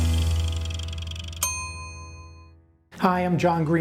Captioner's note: bell dings